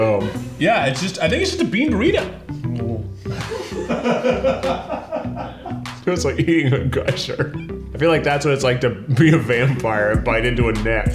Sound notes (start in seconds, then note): 2.6 gags; 3.3 laughter